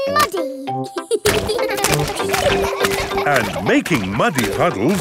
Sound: children laughing

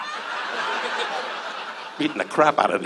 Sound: audience laughs

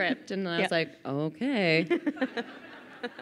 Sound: crowd laughing

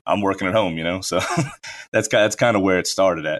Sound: laughs

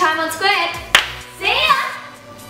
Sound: claps

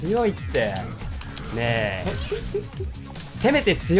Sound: chuckles

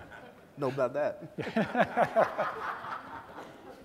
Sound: laughter

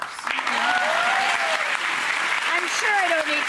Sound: audience applause

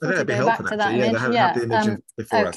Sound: murmuring

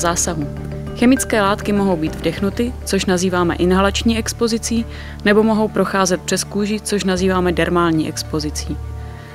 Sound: inhalation

